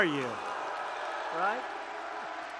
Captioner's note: applause